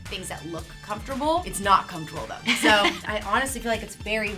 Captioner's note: laughter